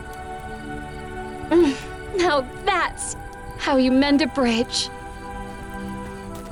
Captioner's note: exhales